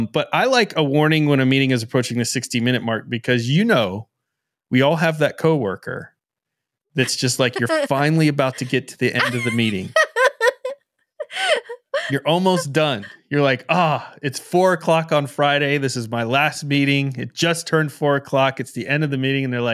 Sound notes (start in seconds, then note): 11.1 laughing